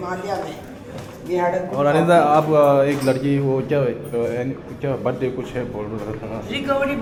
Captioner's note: walking